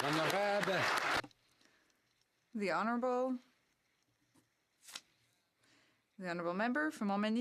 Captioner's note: some Applause